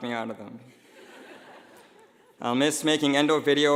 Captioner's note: laughing